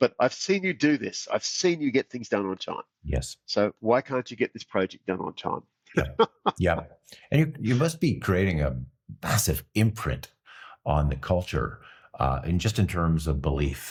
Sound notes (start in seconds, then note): 5.9 laughs